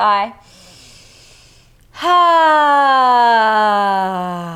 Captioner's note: inhales breath